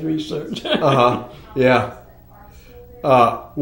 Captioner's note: laughs